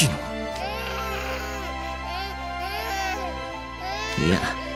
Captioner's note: crying